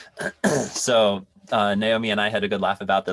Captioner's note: laughs; clears throat